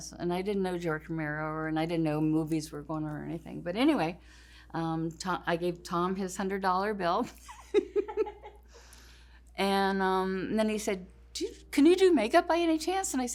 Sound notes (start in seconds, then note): 7.6 laughs